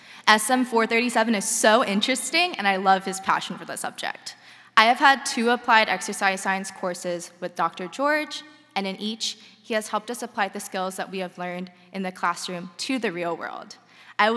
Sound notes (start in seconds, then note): none